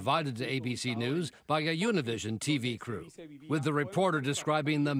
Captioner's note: speaking a foreign language